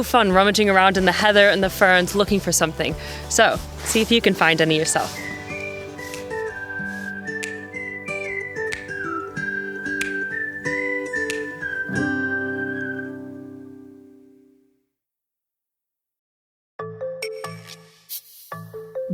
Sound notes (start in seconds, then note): 4.8 whistles